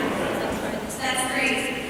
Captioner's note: laughter